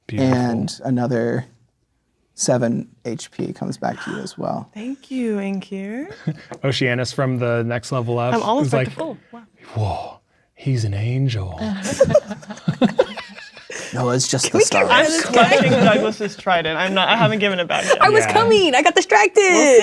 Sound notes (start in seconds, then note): 11.7 players laughing